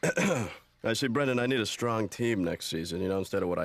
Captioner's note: clears throat